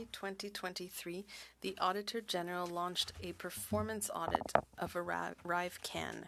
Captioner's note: speaking French